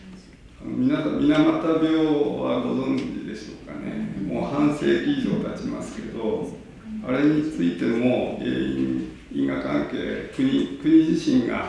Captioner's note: japanese